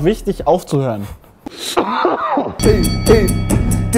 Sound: cough

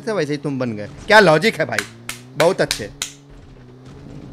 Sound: clapping

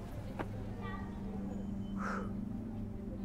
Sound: sighs

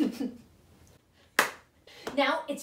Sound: chuckles; hands clap

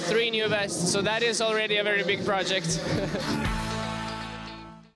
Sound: laughs

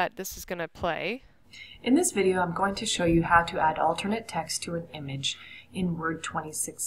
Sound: video audio playing

